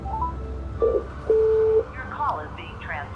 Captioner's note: answering machine beep